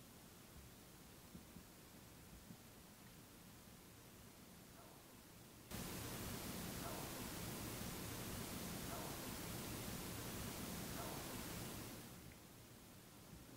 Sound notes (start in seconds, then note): 9.6 ghostly Voice